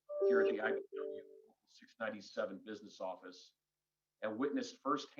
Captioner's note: computer chimes